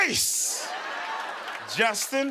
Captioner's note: laughter, cheers, applause